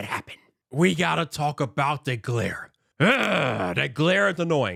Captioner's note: sighs